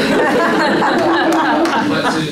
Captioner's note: laughter